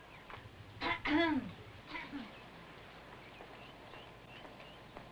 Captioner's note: Vicki clears throat